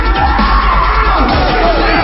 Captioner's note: voice remixing with music; yells